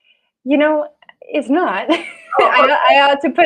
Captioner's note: laughs